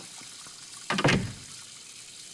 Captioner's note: door opening